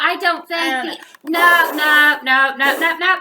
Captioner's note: blows